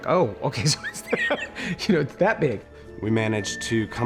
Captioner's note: laughing